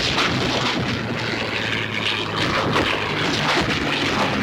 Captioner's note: planes buzzing